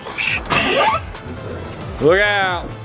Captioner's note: door opening